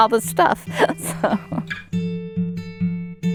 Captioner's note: laughing